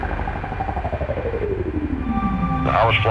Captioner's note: trilling sound